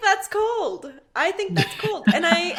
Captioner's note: laughing